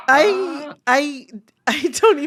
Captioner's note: laughter